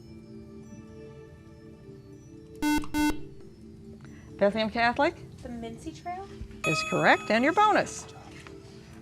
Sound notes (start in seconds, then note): 2.6 beeping